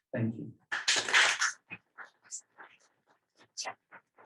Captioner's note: applause